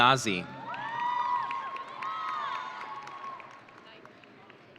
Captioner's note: audience cheering